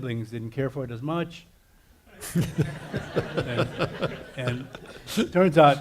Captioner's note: audience laughing